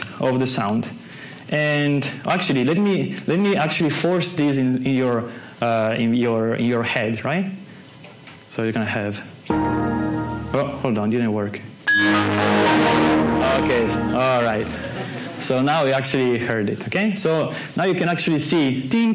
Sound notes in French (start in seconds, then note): 11.9 Son de démarrage de Windows; 14.7 rires